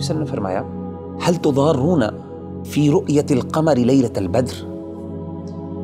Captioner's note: Arabic